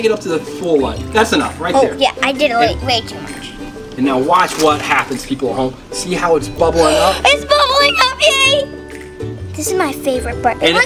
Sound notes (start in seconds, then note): 6.7 gasps